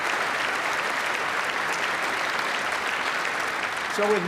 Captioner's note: applause